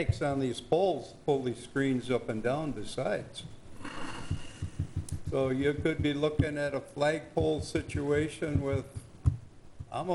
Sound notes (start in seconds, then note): none